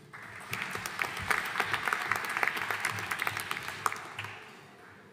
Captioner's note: audience applauding